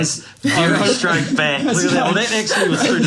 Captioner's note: laughs